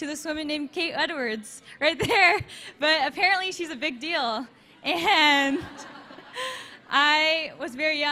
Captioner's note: audience laughs